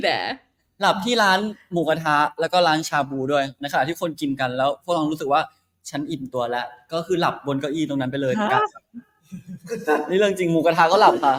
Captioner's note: in Thai